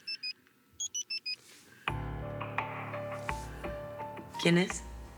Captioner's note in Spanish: Suena el teléfono